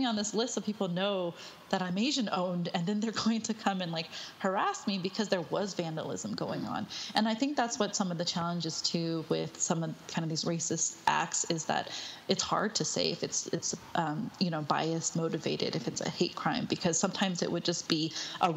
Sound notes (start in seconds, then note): none